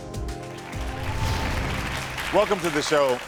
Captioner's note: audience applauding